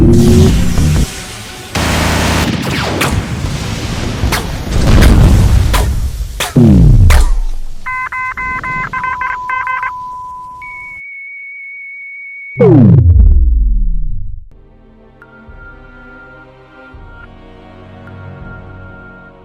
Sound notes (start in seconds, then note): 0.2 weapons blasting; 3.9 explosion rumbling; 7.8 alarms beeping; 14.5 dramatic music